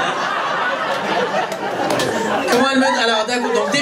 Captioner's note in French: rires public